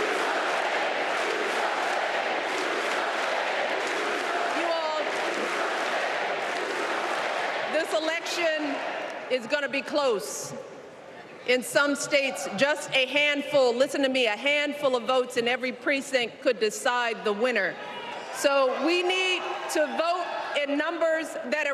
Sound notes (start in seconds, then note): 4.6 applause